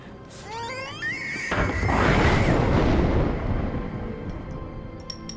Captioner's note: baby screaming; thunder cracking